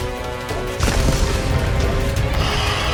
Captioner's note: falls